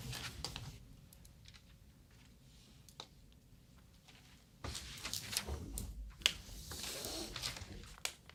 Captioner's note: paper ratting